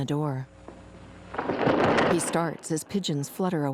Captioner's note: birds flapping